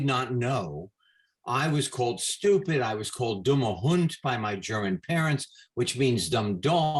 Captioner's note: in German